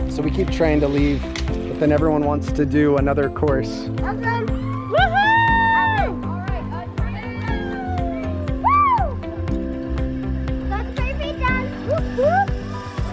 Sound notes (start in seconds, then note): 8.6 mom exclaims